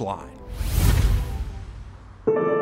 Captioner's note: screen whooshing; pensive music